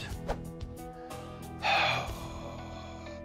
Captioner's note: sighs